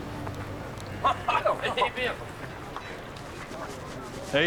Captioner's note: chuckling